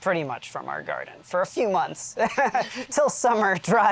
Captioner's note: laughs